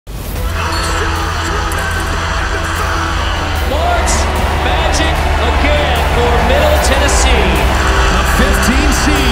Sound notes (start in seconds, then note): 0.3 crowd Cheering